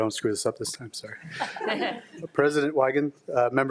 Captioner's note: attendees chuckling